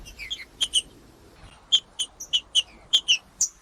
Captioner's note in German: trinca ferro cantando